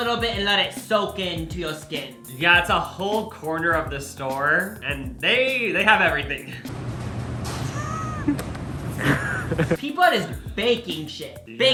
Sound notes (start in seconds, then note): 7.3 laughs; 9.0 smacks his lips and laughs